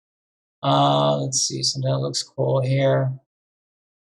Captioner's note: hums